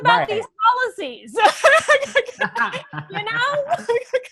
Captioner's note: laughter